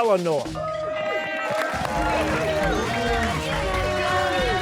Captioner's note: cheers and applause